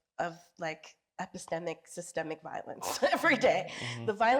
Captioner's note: chuckles